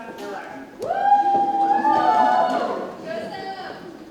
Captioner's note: ladies cheer